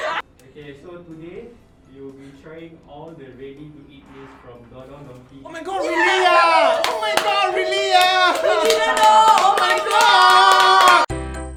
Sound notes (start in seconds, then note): 0.0 laughs; 9.3 loud cheering